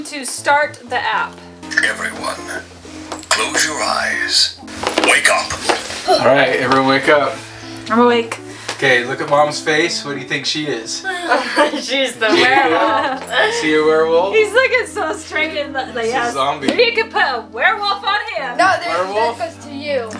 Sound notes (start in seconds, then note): 2.0 dramatic Voice